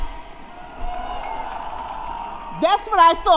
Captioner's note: applause